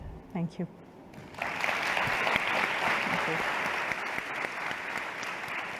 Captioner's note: applause